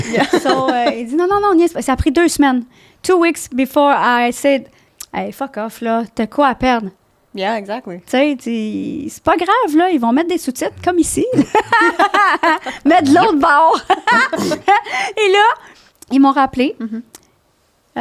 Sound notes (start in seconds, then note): 0.3 in french; 8.9 in french; 10.7 laughing; 12.6 in french